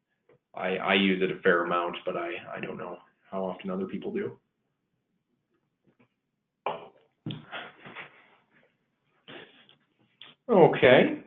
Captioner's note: silence